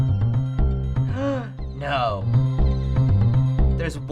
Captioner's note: gasps